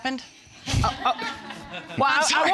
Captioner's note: all laughing